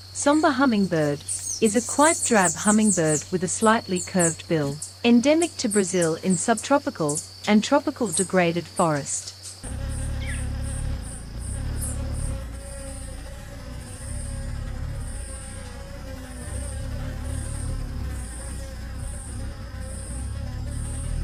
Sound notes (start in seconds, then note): 9.8 bird's wing flapping; 9.8 birds chirping